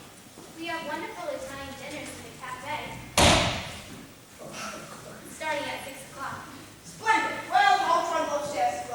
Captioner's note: smacks desk